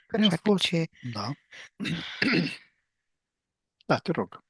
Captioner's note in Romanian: voce dreasă